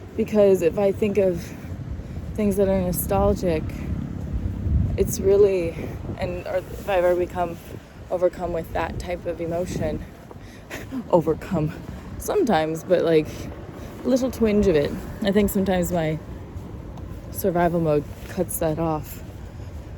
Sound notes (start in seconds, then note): 10.7 chuckles